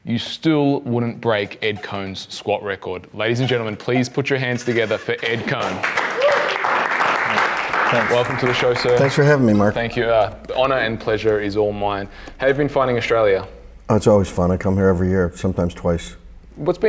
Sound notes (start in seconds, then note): 5.2 claps and jeers